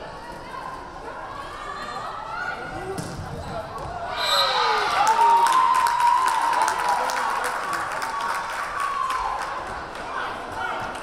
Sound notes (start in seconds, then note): 4.0 crowd cheering; 4.2 whistle blaring